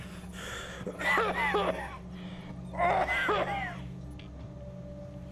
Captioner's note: heavy breathing; violent coughing